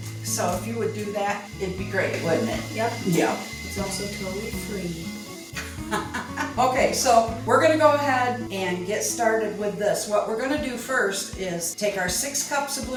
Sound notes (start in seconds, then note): 5.6 laugh